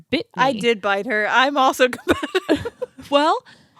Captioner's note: giggles